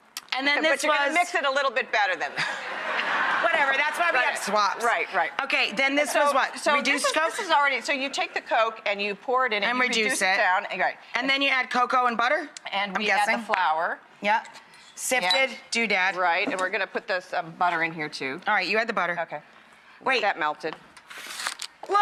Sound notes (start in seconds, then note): 2.3 audience laughing